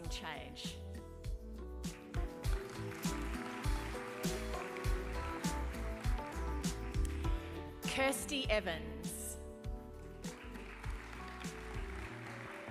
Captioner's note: applause